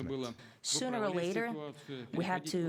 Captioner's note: through translator